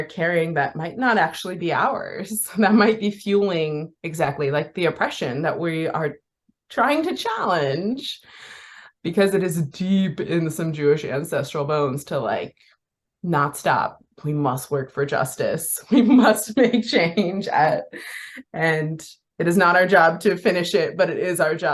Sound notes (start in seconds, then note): 15.9 laughing